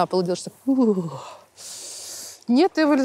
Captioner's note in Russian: озвучивает, как сводит мышцы от холода